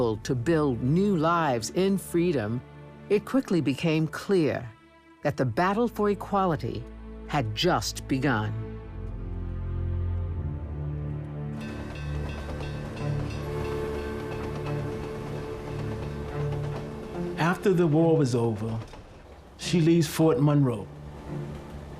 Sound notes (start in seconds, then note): 11.6 train bell rings; 12.8 train whistle blows and train chugs